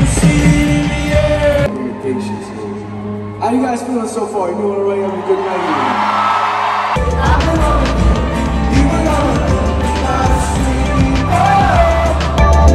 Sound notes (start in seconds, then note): 6.8 cheering